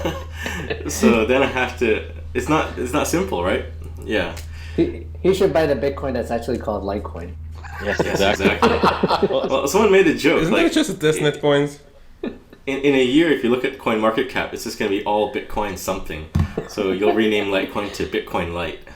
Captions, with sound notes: So then I have to - it's not simple, right? Yeah. He should buy the Bitcoin that's actually called Litecoin [Laughs] Yes exactly! Someone made the joke -Isn't that just like a TestNet coins? In a year, if you look at the CoinMarketCap, it's just going to be all Bitcoin something. So, you'll rename Litecoin to 'Bitcoin Lite'